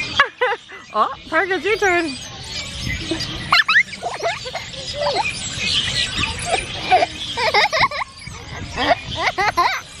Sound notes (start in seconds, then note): 0.2 laughs